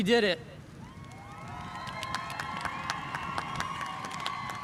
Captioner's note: spectators cheering